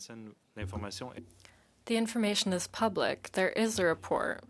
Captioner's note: speaking in French